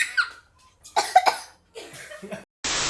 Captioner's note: coughs